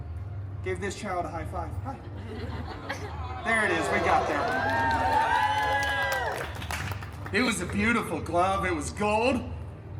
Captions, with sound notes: gave this child a high five. Hi. There it is. We got there. [guests cheering and clapping] It was a beautiful glove. It was gold